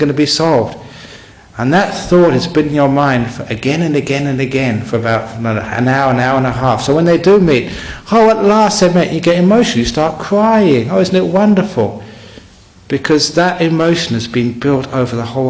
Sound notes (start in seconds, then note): none